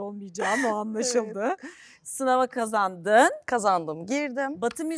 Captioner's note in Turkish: kahkaha